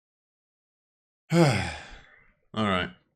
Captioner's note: sighs